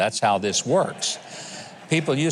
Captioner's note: audience laughing